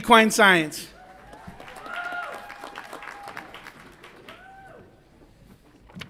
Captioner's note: audience applauds and cheers